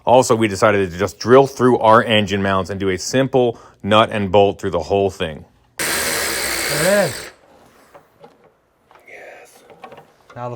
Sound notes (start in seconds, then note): 5.8 grinder buzzing